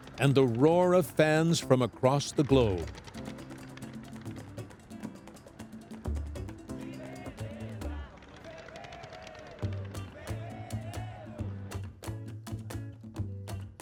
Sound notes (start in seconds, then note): 2.0 fireworks; 6.7 singing